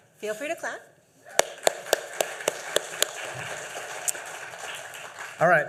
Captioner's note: applause